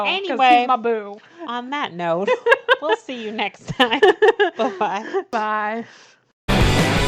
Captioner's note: laughs; outro music plays